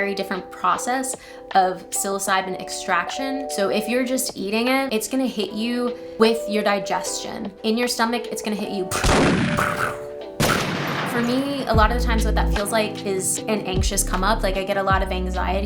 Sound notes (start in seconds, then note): 8.9 pew, pew pew; 10.4 random gunfire shots